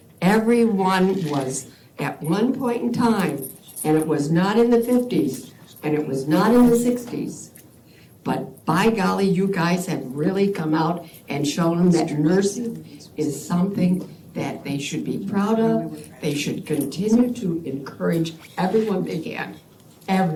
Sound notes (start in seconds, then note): none